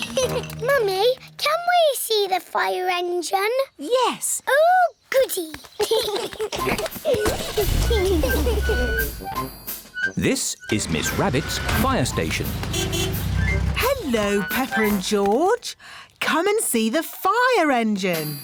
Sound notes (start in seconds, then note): 0.0 giggles; 5.8 both giggling; 12.6 horn honks